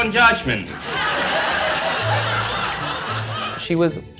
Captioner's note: audience laughs